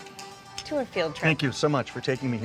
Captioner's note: bright dance music; glasses clink